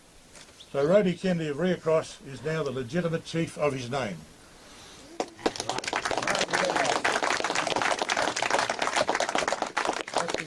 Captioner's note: applause